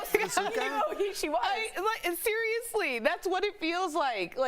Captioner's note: laughter